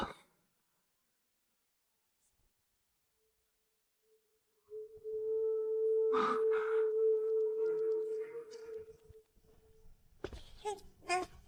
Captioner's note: baby sounds